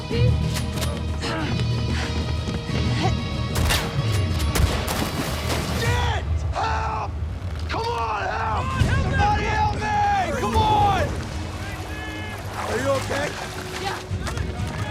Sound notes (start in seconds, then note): 0.1 background commotion; 1.1 rapid breathing; 4.5 gunshot; 4.8 plunging into water; 6.0 yelling